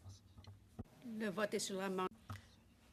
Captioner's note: speaking French